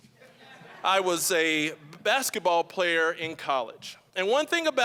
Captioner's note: audience laughing